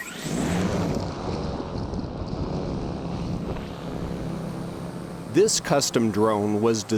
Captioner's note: drone motors whirring